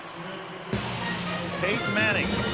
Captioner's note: pa announcement